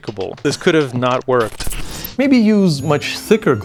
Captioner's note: screen crackling